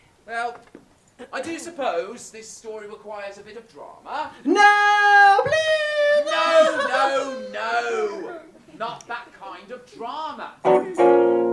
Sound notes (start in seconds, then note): 4.4 screaming no; 10.7 loud strum, then scooby-doo style footsteps